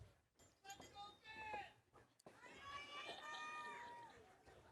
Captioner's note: crowd yelling